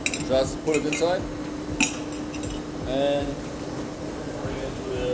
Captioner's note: metal clanging